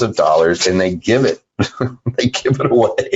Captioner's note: laughing